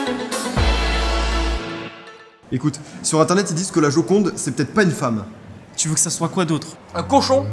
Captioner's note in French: none